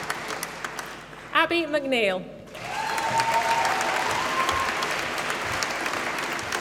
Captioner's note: applause